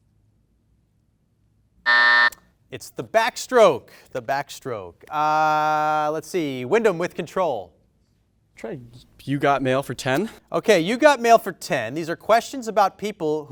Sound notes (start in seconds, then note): 1.8 beep